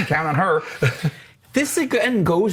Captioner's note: laughs